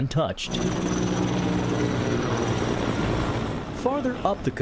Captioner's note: helicopter whirring